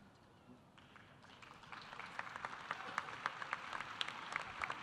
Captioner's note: audience applauding